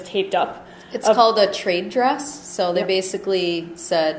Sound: voiceover

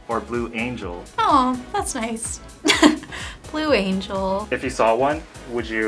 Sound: laughs

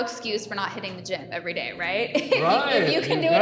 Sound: laughs

